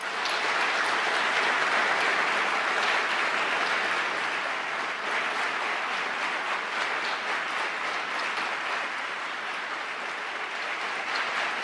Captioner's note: applause